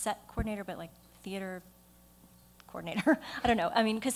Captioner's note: laughs